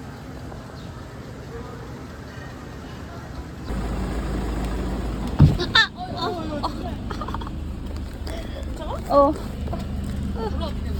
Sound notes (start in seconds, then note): 5.3 thunk